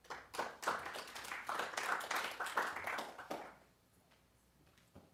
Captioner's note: applause